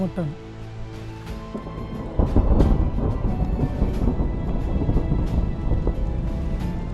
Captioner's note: thunder sounds